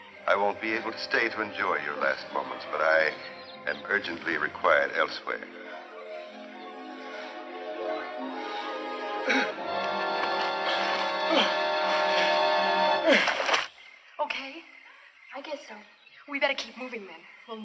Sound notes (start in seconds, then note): 5.6 clears throat